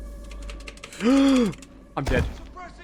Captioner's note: gasps